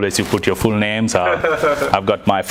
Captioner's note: laughs